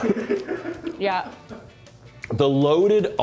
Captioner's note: crew laugh